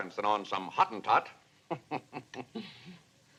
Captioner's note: chuckles